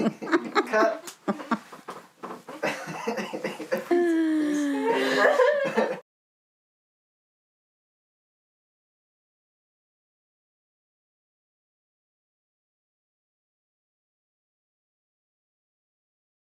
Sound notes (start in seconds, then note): 2.4 all chuckling